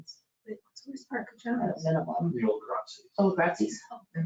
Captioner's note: murmuring